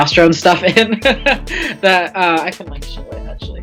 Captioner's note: laughs